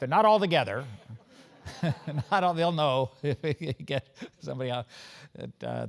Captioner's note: laugh